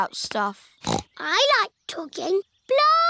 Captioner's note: snorts